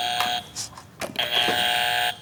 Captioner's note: buzzer